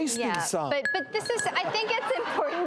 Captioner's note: audience laughter